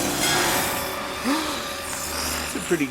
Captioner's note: gasps